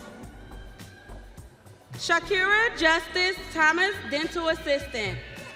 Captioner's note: audience cheering